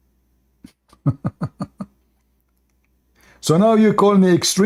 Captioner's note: Ketawa